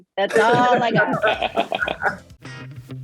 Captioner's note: laughing; upbeat music